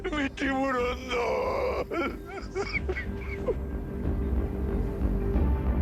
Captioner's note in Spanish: Sollozos; Sollozos